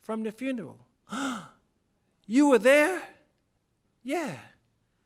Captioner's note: gasp